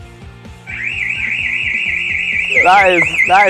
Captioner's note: alarm siren sounds